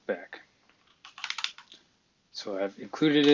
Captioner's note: typing